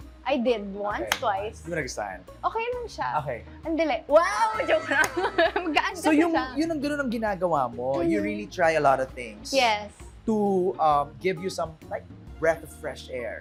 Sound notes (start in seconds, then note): 1.1 claps; 4.4 laughs